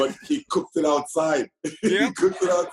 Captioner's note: laughter